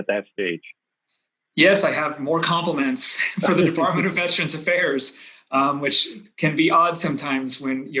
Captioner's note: chuckles